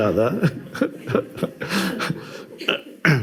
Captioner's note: laughs